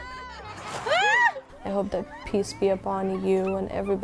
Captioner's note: exclaims